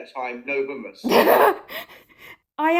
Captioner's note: laughter